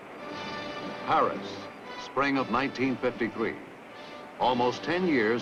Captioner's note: voiceover